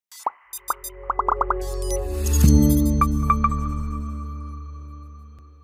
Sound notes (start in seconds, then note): 0.6 logos popping; 2.7 electronic music